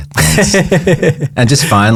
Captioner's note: laughing